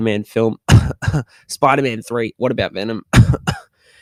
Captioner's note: cough